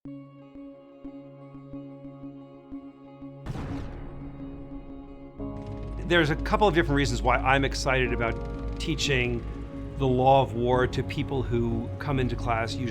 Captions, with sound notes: (gentle music) (bullet firing) - There's a couple of different reasons why I'm excited about teaching the law of war to people who come into class,